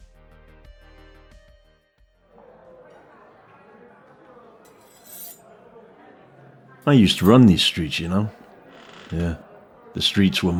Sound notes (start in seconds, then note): 2.2 ambiance - Hum of chatter; 4.8 sound - Dagger being sharpened